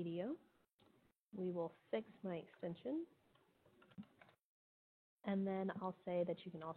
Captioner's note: computer keys clicking